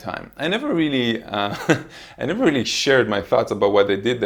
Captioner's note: laughs